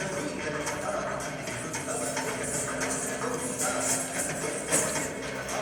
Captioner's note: coins jingling